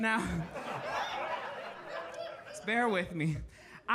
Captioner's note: audience laughing